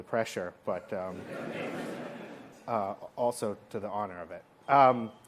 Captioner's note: laughter